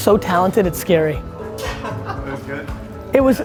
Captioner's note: laughs